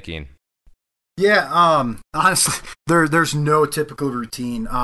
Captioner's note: chuckles